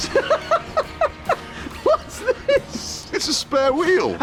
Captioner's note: laughs